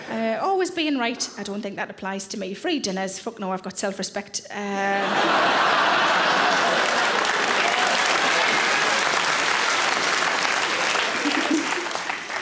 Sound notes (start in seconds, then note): 4.9 audience laughing; 5.2 audience applauds